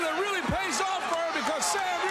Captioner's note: crowd cheering